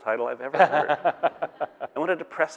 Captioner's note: all laughing